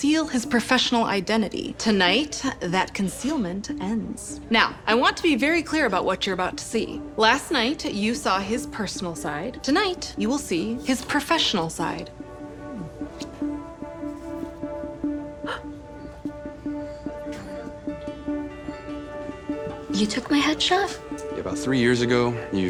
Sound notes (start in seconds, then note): 15.3 gasps